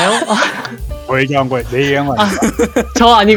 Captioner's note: laugh; laugh